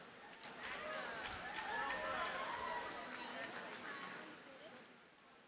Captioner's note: audience cheers and applauds